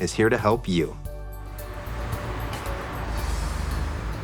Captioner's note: cars passing